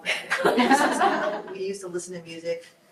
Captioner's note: group laughs